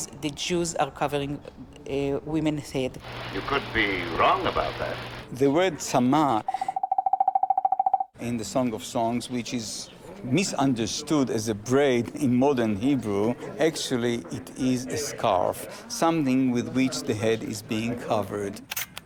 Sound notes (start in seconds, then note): 6.6 bright popping